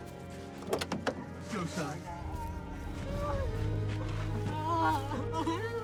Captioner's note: jimmy crying